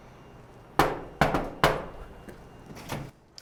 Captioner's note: knock, knock